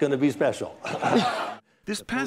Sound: laughter

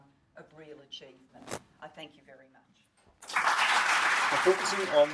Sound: audience applause

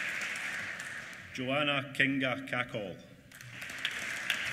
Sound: applause

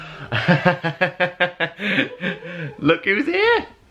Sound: laughing

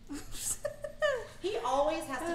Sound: laughing

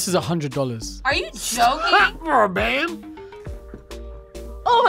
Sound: laughs

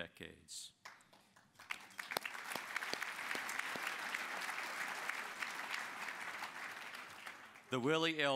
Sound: applause

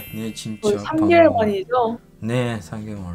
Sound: Korean

